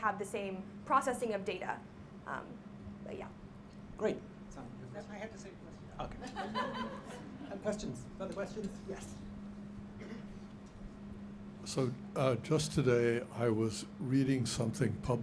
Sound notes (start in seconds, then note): 6.1 laughing